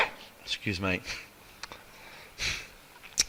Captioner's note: coughs